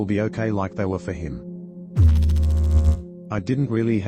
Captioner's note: electrical noise